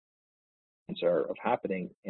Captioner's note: audio distorts